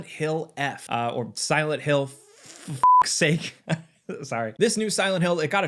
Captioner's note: beep